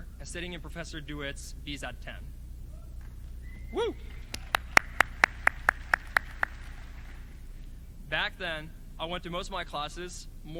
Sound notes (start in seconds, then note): 3.5 cheering; 5.6 clapping